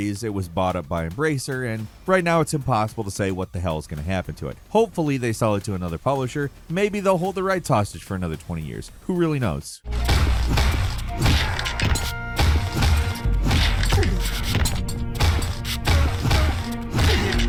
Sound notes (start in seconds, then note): 10.6 sword thwacks; 15.7 grunting